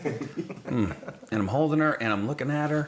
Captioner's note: laughing